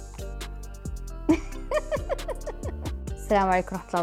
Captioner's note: laughs